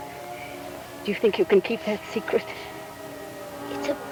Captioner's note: birds calling